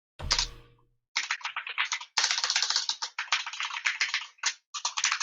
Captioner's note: keyboard keys clanking